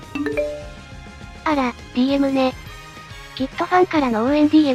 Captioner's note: ping!